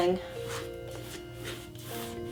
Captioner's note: light brushing